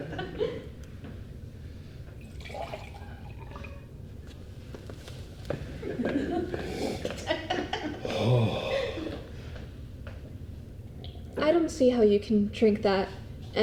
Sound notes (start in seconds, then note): 2.2 water sloshing; 6.5 Capitol sniffs